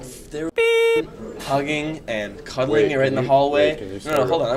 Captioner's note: beep